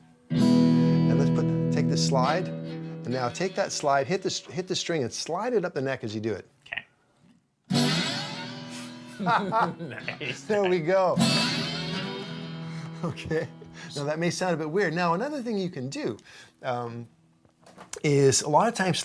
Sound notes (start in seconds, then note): 7.7 quick guitar music; 8.9 laughing; 11.6 quick guitar music